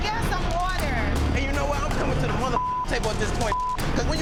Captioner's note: beep